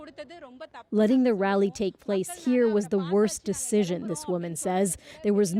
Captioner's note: speaking alternate language